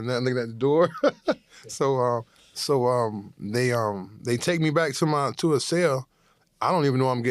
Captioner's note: chuckles